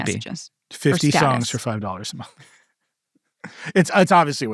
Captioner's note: laughs